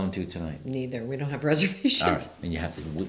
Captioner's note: laughs